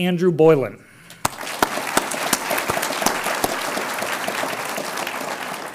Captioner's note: audience applauds